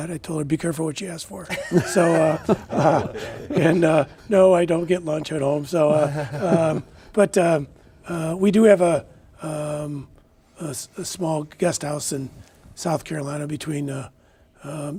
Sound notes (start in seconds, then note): 1.5 laughing